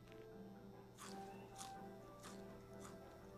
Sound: crunching; elevator music playing

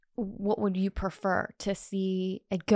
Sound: none

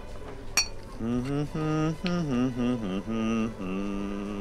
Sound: humming

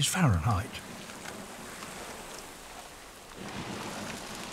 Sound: liquid pours

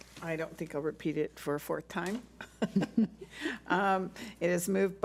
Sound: laughs

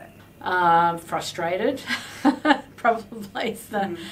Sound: laughs

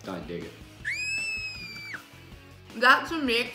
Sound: screaming

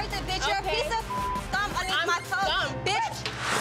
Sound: beep

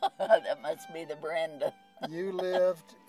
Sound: chuckles

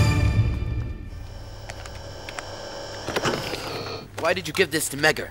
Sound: wheelchair whirring

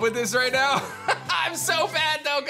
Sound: chuckles

